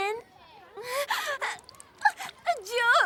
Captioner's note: sobbing